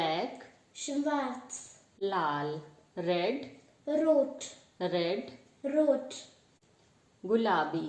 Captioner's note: in German : Rot